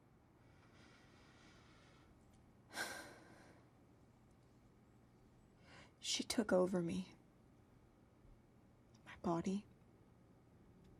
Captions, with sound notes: (Maria sighs) - She took over me. My body.